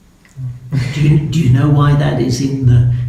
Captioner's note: laughing